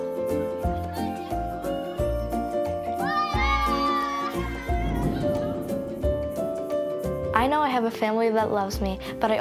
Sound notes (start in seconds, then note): 3.0 everyone cheers